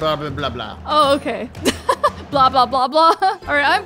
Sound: laughing

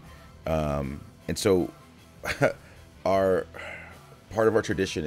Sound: laugh

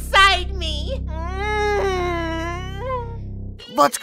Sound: moans lightly

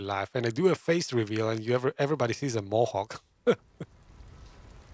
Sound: laughs

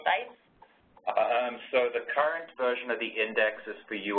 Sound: voiceover

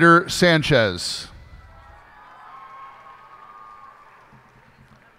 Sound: cheers and applause

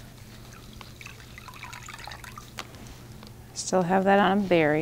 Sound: water trickles

